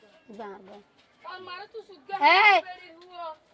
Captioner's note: curses and swears